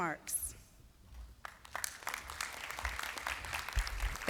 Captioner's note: applause